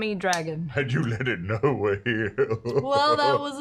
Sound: chuckles

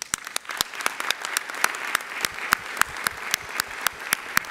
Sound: audience applauding

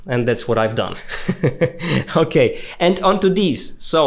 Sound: laughing

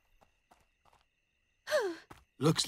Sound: sighing

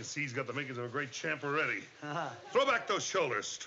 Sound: chuckles

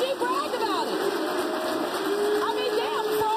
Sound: audience applauding; audience jeering

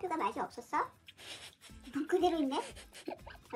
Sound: laughter

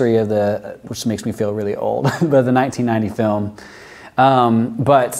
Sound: chuckles

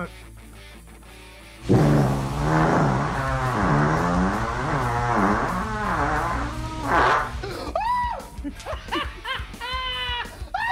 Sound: passes gas; laughter

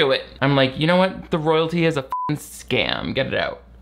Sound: beep

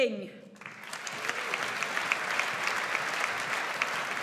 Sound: audience applauds

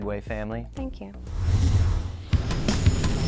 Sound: whoosh

